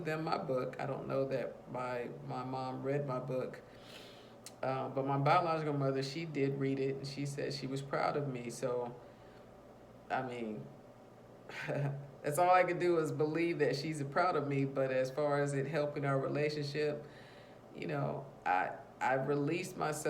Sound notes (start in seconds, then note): 11.5 chuckles